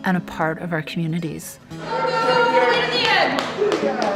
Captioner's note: chatter